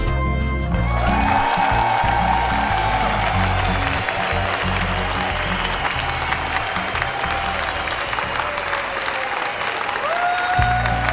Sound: applause

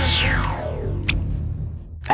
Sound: kissing sounds

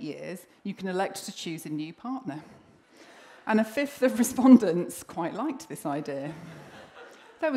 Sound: laughter

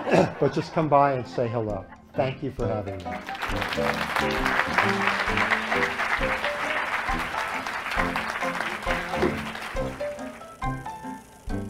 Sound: laughter

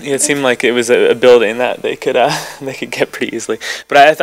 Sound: laughs

